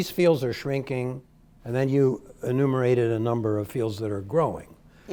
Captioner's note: none